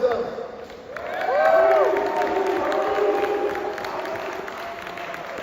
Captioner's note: 박수 갈채